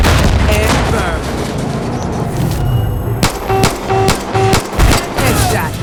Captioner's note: gunshots